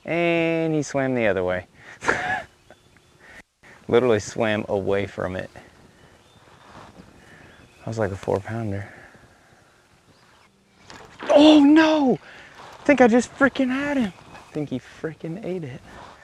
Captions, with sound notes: And he swam the other way. (laughs) Literally swam away from it. That was like a four-pounder. Oh, no, think I just frickin' had him. I think he frickin' ate it.